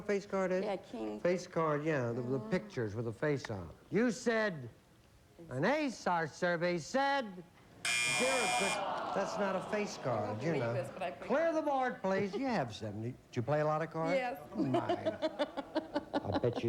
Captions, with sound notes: A KING. FACE CARD, YEAH. WITH THE PICTURES, WITH THE FACE ON IT. YOU SAID...AN ACE. OUR SURVEY SAID...ZERO. THAT'S NOT A FACE CARD. CLEAR THE BOARD, PLEASE. YOU HAVE 72. DO YOU PLAY A LOT OF CARDS? YES. [LAUGHS] I BET YOU SHE'S GONNA DO IT.